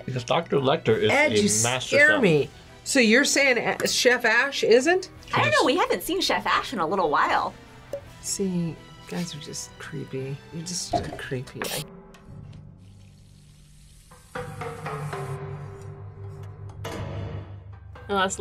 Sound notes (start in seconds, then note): 12.6 meat sizzling; 13.9 ominous music